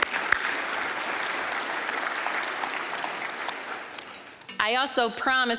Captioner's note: applause